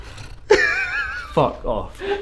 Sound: laughs

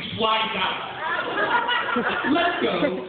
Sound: laughter

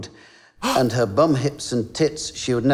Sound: gasping

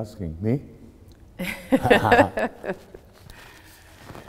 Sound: laughing

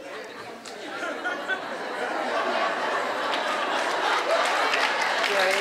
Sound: audience laughs, claps

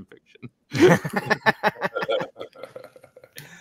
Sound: laughs

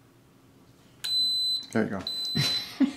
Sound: long beep

